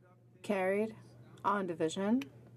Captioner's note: speaking French